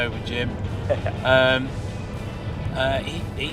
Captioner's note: chuckles